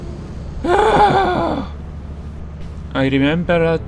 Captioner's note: frustrated sigh